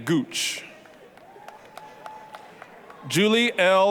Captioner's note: applause, cheering